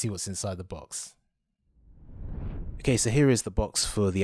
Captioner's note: swooshing